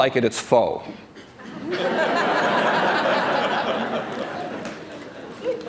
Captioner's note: laughter